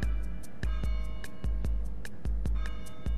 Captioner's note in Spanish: Peajes de campana